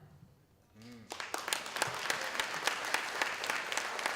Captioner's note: applause